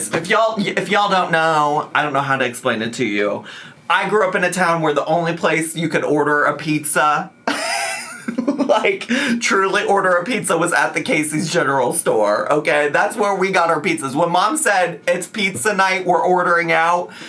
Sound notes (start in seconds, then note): 7.5 laughs